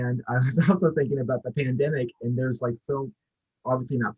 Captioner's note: chuckles